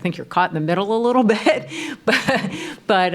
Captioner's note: laughs